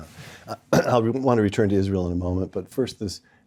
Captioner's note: cough